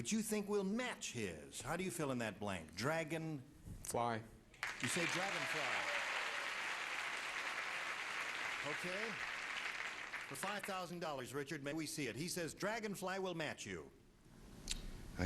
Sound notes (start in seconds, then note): 7.1 applause